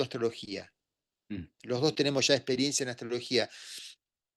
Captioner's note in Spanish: carraspeo